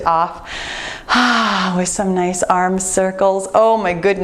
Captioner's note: sighs contentedly